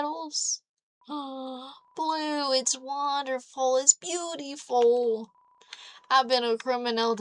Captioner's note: looong gasp